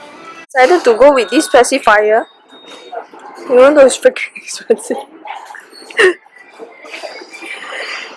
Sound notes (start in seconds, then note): 4.6 nervous laugh